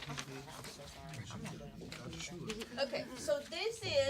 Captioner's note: students murmur